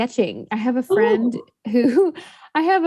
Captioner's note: laughs